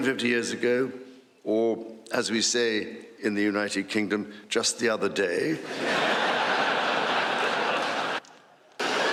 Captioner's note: applause